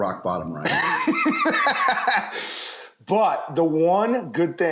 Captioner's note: laughs